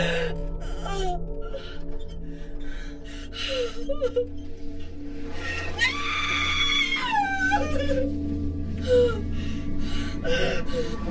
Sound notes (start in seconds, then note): 0.0 gasping Intensifies; 0.3 crying; 5.4 sobbing